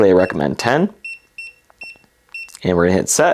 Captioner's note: button beeping